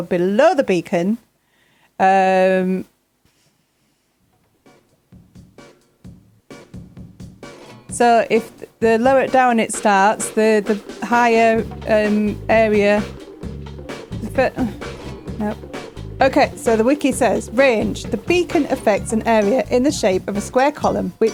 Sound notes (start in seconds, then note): 3.9 silence